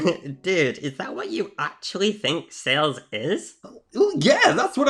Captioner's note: laughs; lighthearted music